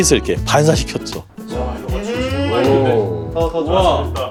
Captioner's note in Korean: 일동 감탄